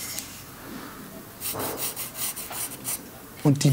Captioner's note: scratching marking